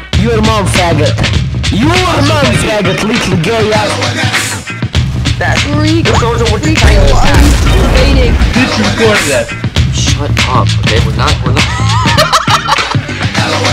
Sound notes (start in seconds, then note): 11.6 laugh